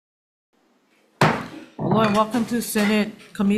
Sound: gavel bangs

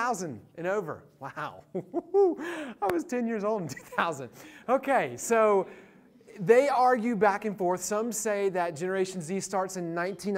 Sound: laughs

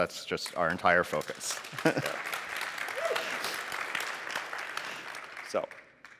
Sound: applause

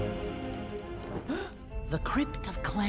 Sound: gasps

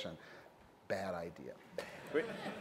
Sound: laughter

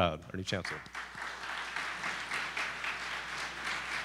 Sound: applause

